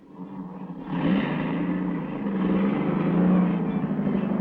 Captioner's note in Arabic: صوت المحرك